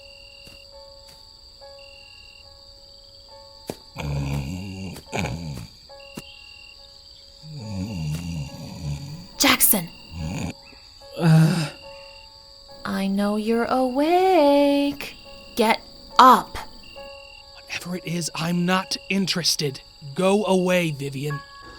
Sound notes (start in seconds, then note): 3.9 Jackson snoring; 10.0 grunt